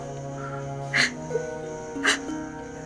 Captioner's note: Padmini sobs